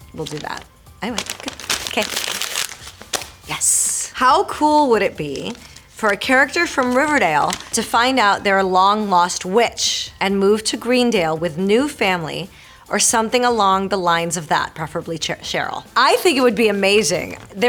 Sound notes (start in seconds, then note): 1.0 paper crunching; 4.4 Marisol reading fan letter aloud